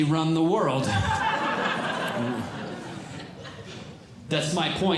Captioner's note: audience Laughing